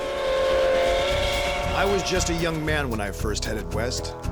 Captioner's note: train whistle